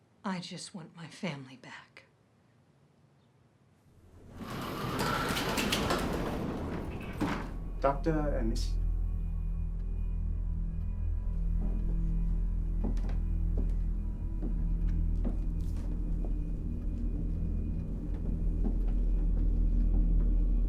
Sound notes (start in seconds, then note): 4.0 door sliding; 8.9 solemn music